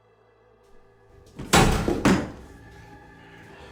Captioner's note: door crashes open